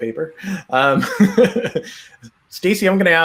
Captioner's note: laughs